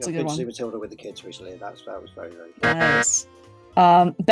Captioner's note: loud incorrect buzzer